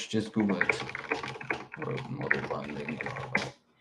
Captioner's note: keyboard clacking